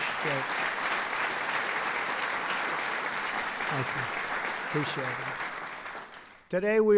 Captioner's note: applause